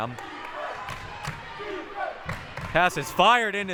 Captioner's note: clapping